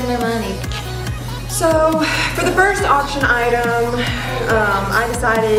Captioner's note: exasperated